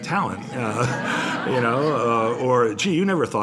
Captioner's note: laughter